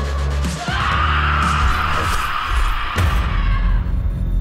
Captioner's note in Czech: křičí